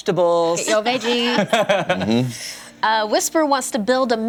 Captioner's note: laughs